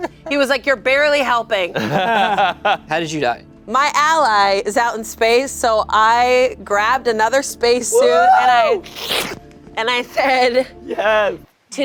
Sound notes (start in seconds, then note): 1.7 laughing